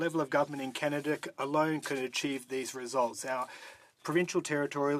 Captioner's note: speaking French